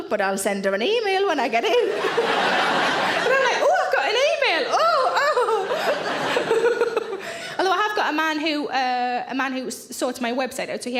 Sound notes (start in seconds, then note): 1.8 audience laughing; 4.6 laughs; 6.5 audience laughing